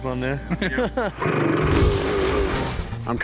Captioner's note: engine revs